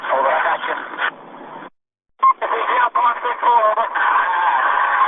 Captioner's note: talking over radio call